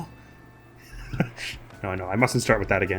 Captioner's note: laughs quietly